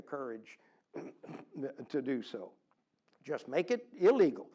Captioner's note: cough